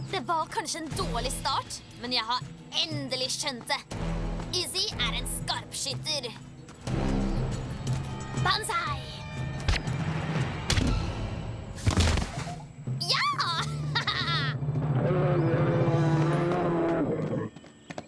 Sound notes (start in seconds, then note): 13.3 laughs; 14.8 bear roars